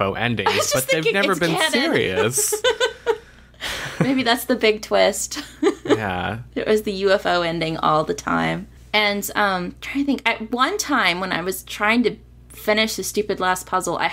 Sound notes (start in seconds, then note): 0.5 laughs